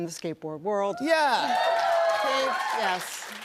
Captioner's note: cheers and applause